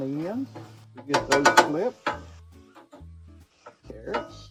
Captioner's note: metal spatula clanging